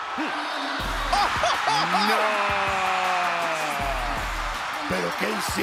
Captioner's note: laugh